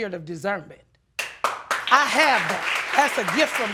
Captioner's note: audience applauds